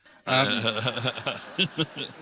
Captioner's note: laughter